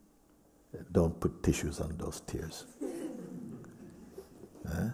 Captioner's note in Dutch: gelach